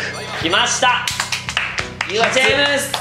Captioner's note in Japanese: 拍手